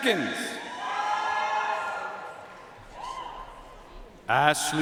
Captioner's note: audience cheering and applauding